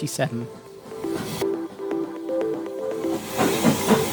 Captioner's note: and Steam Train noises